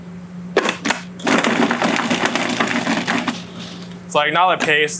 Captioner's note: processor whirring